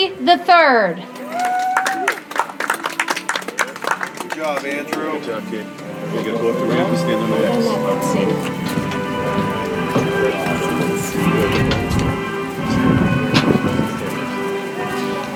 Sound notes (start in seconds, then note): 1.5 audience applauds; 4.9 soft music